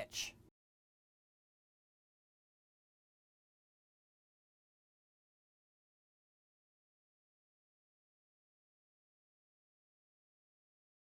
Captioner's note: no Sound Present